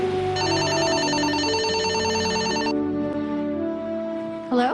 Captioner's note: phone ringing